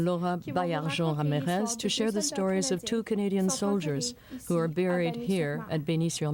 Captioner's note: speaking French